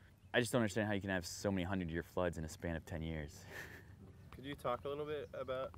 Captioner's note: laughs